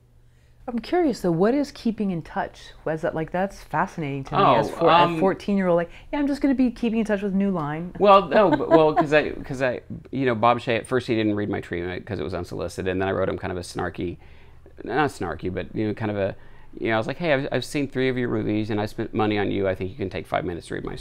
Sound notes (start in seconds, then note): 8.0 laughs